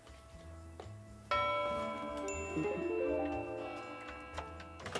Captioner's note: bell chimes